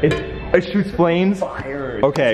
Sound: metallic banging

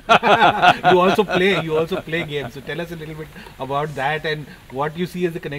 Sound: laughs

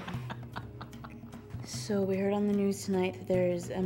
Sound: laughs

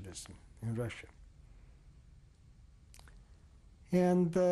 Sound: pauses for 3 seconds

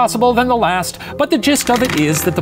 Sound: rattling

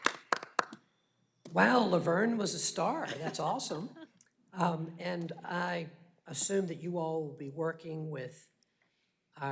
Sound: applause

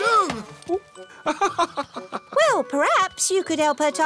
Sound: laughs

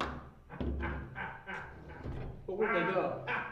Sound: oliver reed cackling in the background

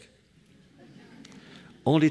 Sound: laughter

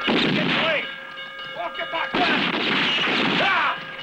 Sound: gunfire

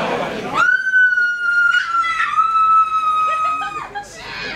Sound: screams!!!

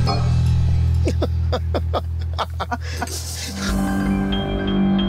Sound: group laughs

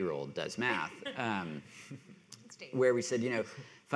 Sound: panelists laughing

